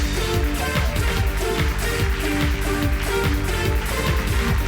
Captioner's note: audience applauding